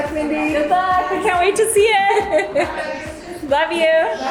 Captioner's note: laughs